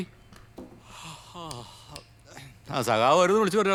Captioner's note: yawning